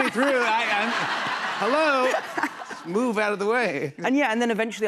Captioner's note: laughter